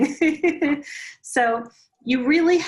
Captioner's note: laughs